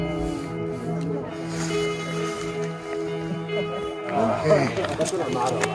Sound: crowd chattering

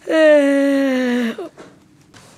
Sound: yawn

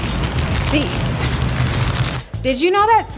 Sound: bag crinkling

